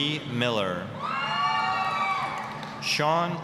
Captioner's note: applause, cheering